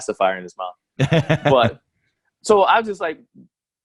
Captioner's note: laughs loudly